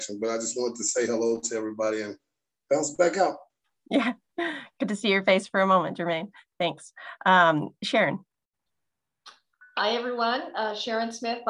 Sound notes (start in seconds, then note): 3.9 laughs